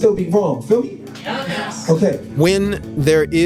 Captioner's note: crowd